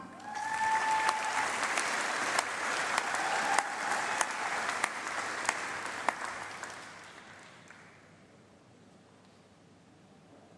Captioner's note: applause